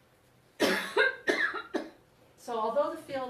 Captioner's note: woman coughs